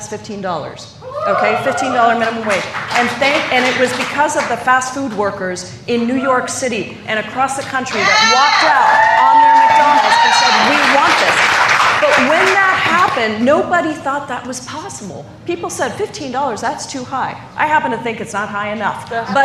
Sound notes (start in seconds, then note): 11.6 cheers and applause